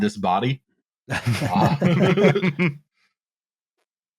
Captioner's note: laughter